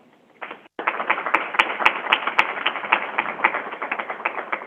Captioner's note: crowd applauding